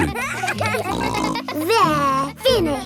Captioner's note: kids giggling